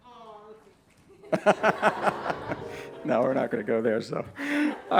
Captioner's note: laughter